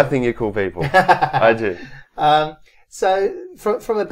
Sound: laughs

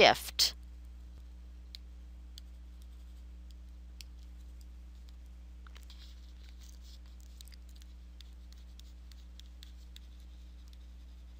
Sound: silence

